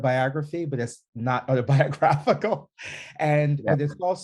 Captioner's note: laughing